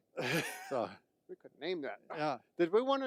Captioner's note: laughing